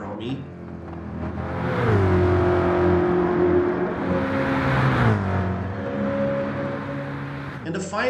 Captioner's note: engines revving, cars noises